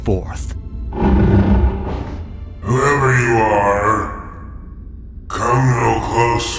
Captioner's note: tired